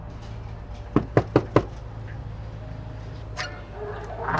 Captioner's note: knocking on door